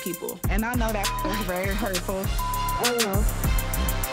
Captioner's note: beep